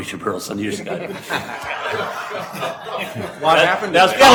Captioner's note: laughing